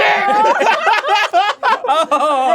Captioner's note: laughing